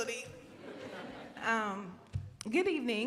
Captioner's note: crowd laughs